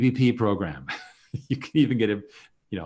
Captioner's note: chuckles